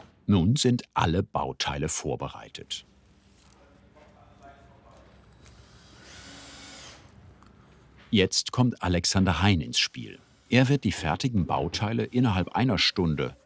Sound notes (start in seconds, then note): 5.4 distant drilling noise